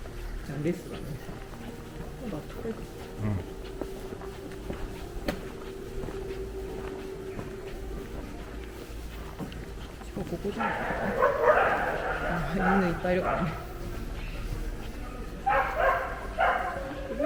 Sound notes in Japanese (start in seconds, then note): 10.5 どこからか犬の鳴き声が聞こえます。